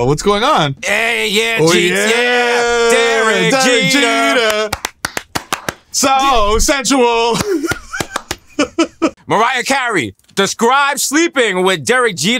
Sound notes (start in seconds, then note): 4.3 clapping; 7.3 clapping